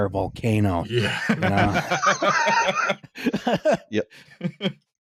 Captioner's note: laughs; all laughing